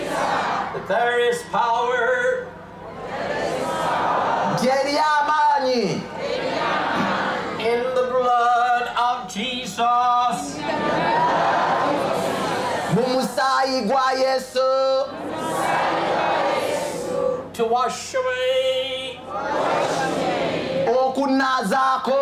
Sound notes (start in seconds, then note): 2.6 audience repeats in english; 5.8 audience repeats in local language; 10.3 audience repeats in english; 14.7 audience repeats in local language; 18.8 audience repeats in english